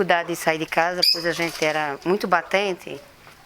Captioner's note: tweeting